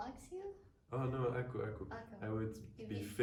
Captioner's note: speaking foreign language